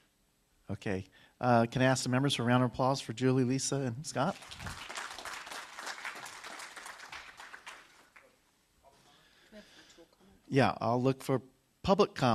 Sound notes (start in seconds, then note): 9.3 applause